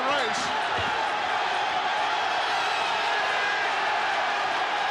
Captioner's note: audience cheering